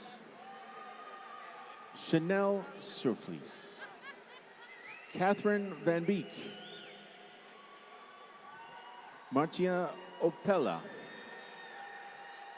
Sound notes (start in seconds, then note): 0.3 applause; 3.6 laughter; 7.2 applause